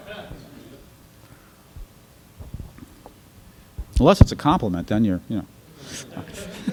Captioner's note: laughter; laughter